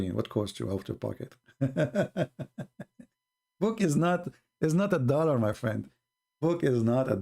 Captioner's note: Ketawa